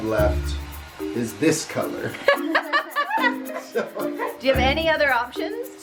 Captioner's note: giggles